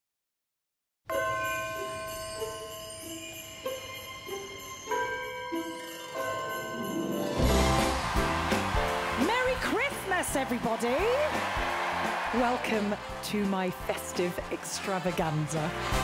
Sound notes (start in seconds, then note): 7.7 audience cheering; 11.6 cheering continues